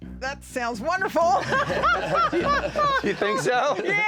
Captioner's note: laughing